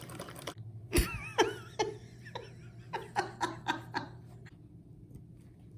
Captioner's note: psychotic Laughter